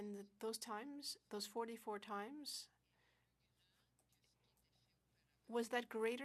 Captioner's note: speaking French